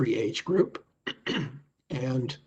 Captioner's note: clears throat